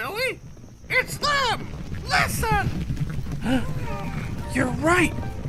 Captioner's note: hooves beating